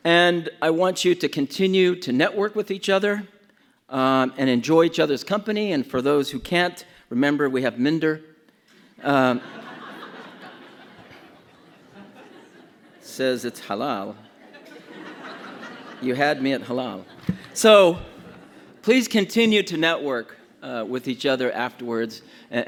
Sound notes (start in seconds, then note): 9.1 audience laughs